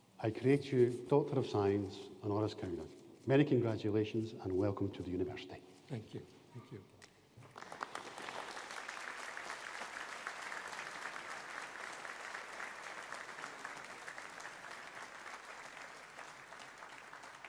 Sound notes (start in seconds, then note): 7.8 audience applauding